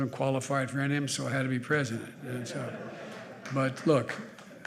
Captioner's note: laughter